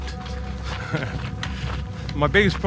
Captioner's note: laughs